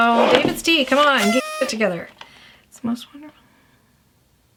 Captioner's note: horn noise